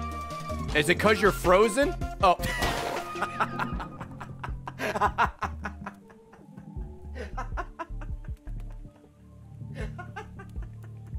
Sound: laughs

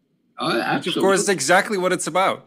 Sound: laugh

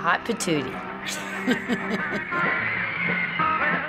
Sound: chuckles

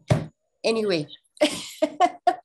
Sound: laughing

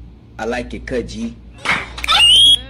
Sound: slap; scream

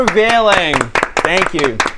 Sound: impressed applause

